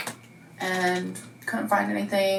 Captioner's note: keyboard keys clicking